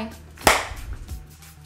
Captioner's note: clap